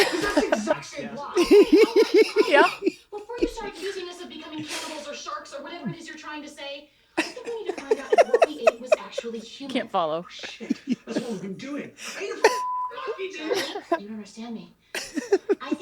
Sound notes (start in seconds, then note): 1.5 they laugh; 7.2 all laughing